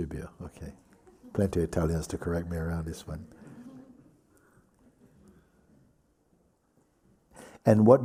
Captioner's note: laughter